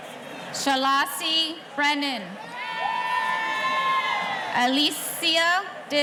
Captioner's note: audience cheering